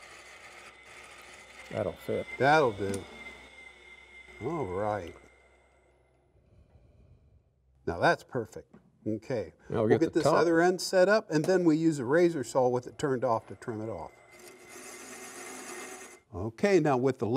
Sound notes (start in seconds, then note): 0.0 wood lathe whirs; 5.2 gouge scrapes; 5.2 wood lathe whirs